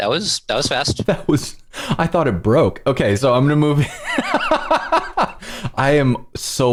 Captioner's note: laughter